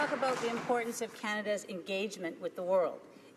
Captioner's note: some Applause